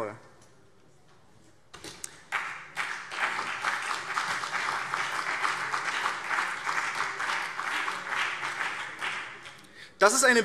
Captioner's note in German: Beifall BÜNDNIS 90/DIE GRÜNEN und CDU